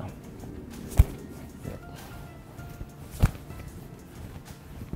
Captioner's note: smacking of arms hitting